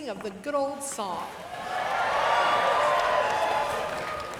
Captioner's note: cheering